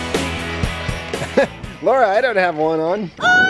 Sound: laughing

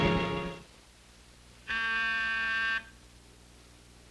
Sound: doorbell buzzes

